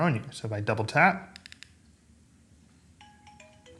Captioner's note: phone ringing